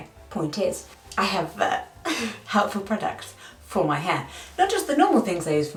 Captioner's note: chuckling